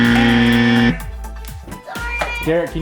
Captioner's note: buzz